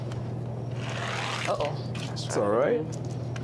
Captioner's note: toy car grating